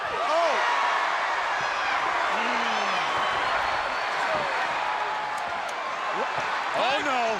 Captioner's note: crowd cheering